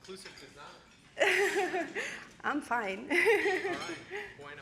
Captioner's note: laughing